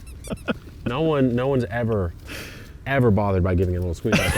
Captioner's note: orange squeaking; laughs; sighs